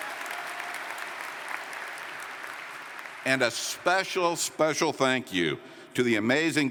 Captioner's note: applause